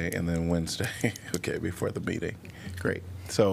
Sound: laughter

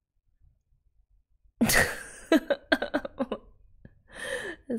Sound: laughs

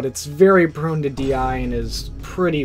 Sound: Vine boom sound effect

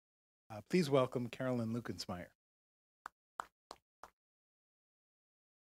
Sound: applause

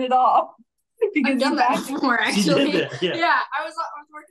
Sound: everyone chattering

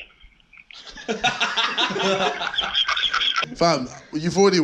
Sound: laughing

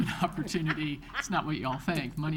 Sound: all laugh

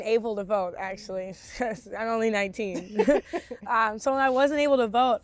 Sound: both laughing

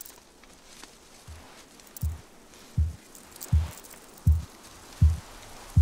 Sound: heartbeat thudding

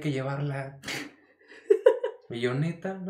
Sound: laughs

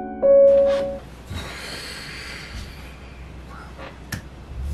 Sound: music stops abruptly; forceful exhale

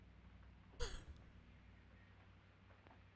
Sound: scoffs

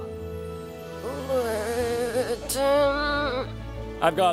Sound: strained

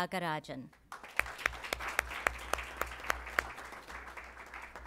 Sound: applause

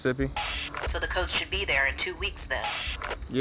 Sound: radio

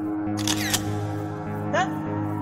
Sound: camera shutter

